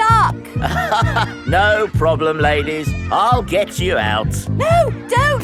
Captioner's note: chuckles